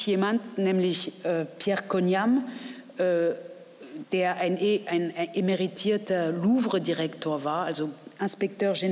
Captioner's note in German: auf Französisch